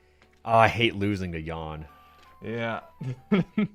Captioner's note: laughing